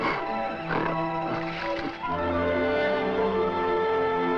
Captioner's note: gorilla grunts